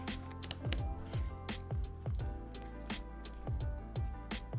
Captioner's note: charger clacking